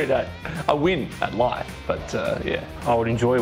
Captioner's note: laughing